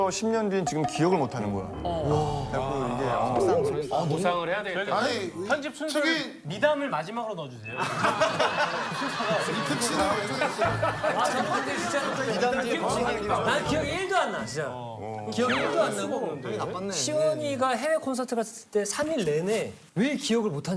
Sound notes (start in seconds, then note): 16.0 frustrated